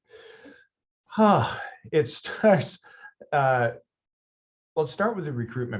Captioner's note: sighs